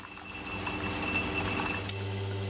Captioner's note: whirring, tinkling